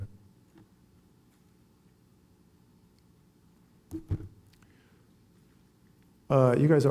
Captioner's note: silence